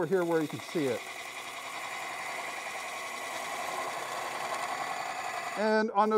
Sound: wood lathe chattering

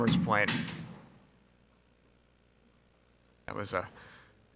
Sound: object clanks

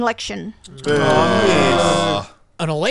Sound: all groaning

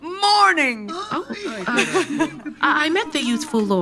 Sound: chatter resumes

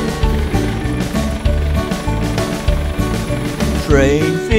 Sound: vehicle sound: helicopter propellers

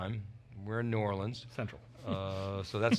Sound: chuckles

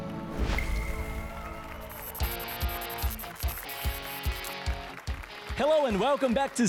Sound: applause and cheers

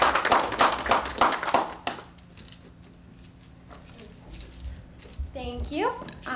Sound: clapping

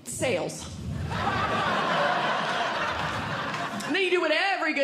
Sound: audience Laughing

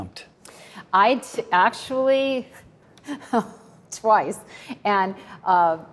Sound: chuckles

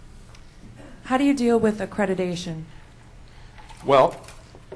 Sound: voiceover

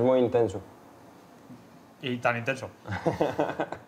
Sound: laughs

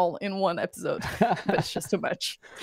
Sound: laughter

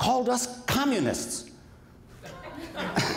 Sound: laughter

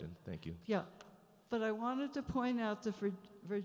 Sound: voiceover

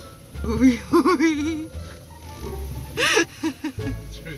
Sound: woman laughs

